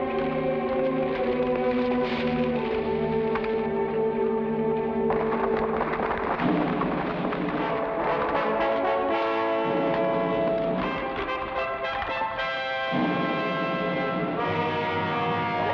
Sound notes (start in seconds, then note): 5.3 adventurous music; 5.3 horse hooves patter